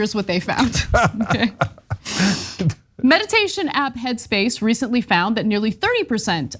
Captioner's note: laugh